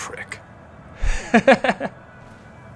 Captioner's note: laugh